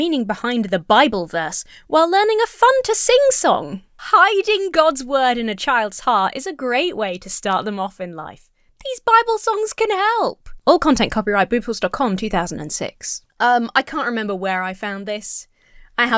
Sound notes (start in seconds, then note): none